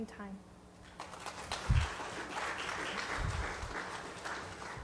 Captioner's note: audience applauding